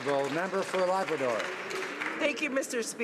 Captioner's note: some Applause